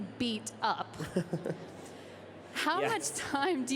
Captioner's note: laughing